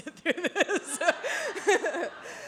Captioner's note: laughter